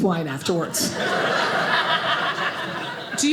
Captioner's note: audience laughing